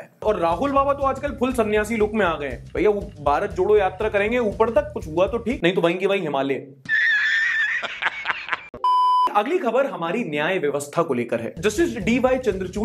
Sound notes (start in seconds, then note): 6.9 laughter; 8.8 beep